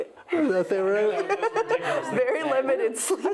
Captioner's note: laughing